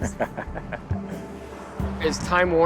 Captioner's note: laughs